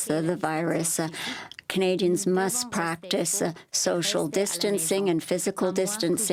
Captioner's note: speaking French